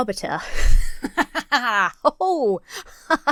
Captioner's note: laughs self-satisfiedly